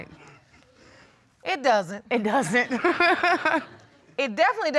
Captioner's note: laughs